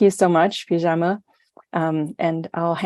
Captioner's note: non-english